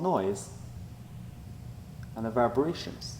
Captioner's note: quiet background hum